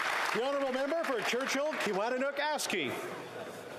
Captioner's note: applause